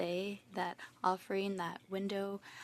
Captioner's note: speaking French